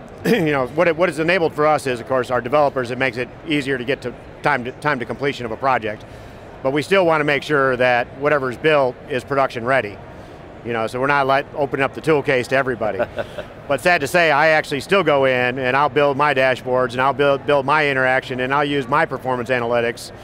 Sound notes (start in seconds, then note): 12.9 laughing